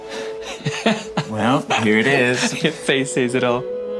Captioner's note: Tan chuckling